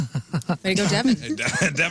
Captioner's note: laughing